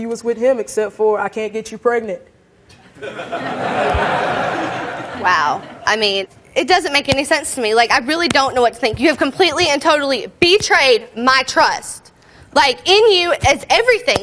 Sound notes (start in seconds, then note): 2.9 audience laughing